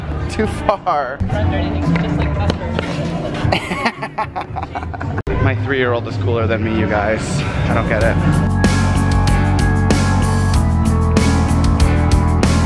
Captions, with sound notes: Too far. (laughing) My three-year-old is cooler than me you guys. I don't get it. (lilting rock music)